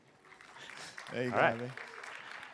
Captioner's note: applause